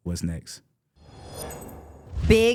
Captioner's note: logo swooshing